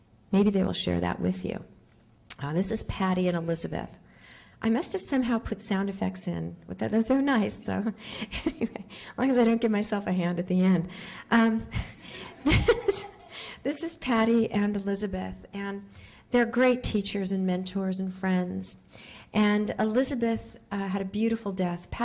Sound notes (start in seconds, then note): 8.1 laughing